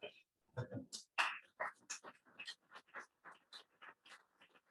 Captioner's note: claps